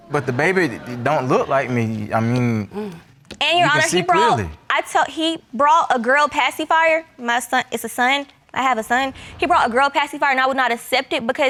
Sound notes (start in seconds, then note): 4.6 stammering